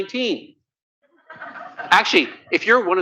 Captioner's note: laughter